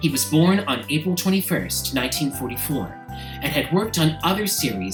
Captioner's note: none